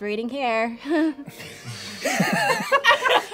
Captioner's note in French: rire nerveux